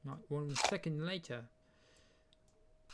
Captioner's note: apple munching sound